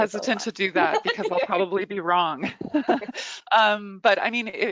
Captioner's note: chuckles